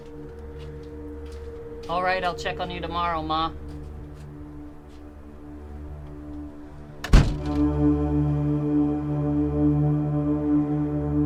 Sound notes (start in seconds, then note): 7.0 door thuds